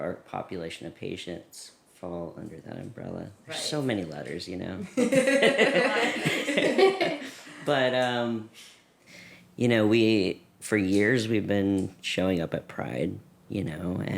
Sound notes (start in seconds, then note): 7.0 laughter